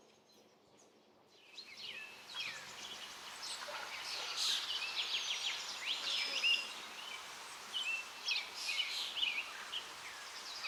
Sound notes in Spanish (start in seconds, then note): 3.9 sonidos de río, trino de pájaros